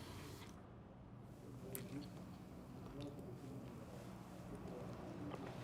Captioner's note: sighing softly; TV chattering softly